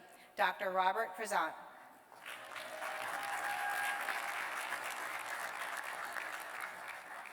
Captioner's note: cheers and applause